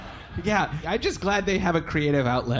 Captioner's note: audience laughing